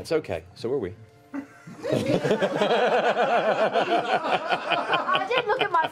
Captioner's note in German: Gelächter